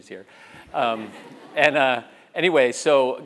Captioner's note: laugh